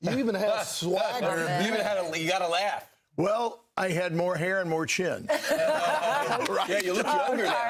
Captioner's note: laughter